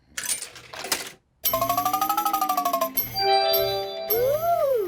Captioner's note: beeps and chimes